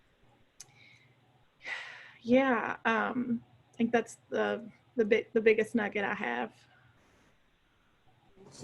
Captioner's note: sighs